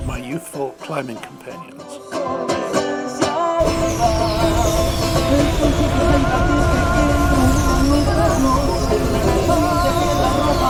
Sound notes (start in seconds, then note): 3.3 upbeat music; 3.6 explosions